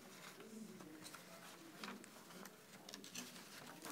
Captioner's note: papers rustling